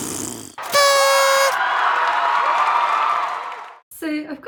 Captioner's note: raspberry; party popper and cheering